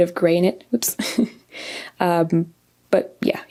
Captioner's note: laughs